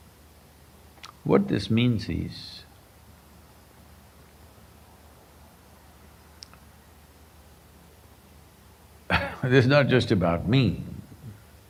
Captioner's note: laughs